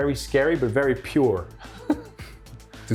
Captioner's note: chuckling